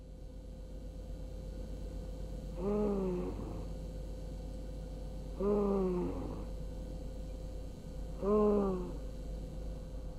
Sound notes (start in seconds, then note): 2.7 character panting